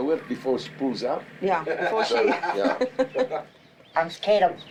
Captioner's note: laughs